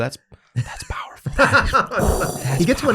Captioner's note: everyone laughs